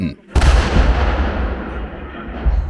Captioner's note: explosion